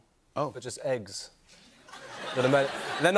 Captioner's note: laughter